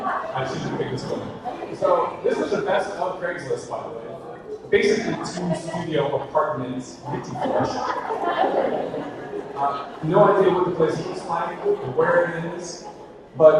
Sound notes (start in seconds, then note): 6.9 audience laughter